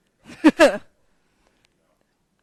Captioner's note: laugh